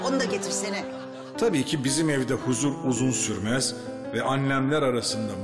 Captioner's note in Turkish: Ahmet dış ses